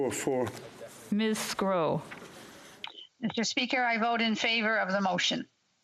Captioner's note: speaking French